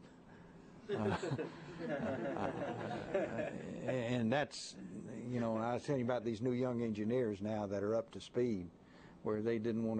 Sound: laughter

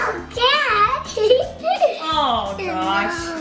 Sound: laughs

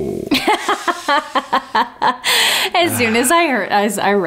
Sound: laughing

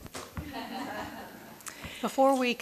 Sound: audience laughing

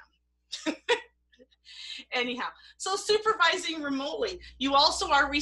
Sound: laughter

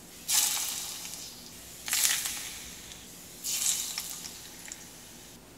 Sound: sizzle

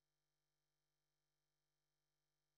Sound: none

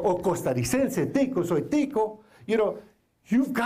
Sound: foreign Language

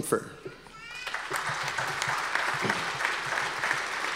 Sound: audience applause

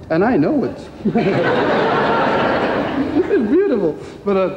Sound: crowd laughing

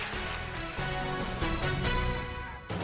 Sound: applause

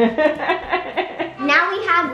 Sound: laughing

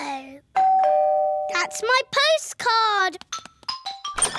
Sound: doorbell rings

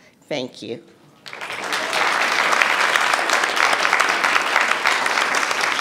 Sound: audience applauding

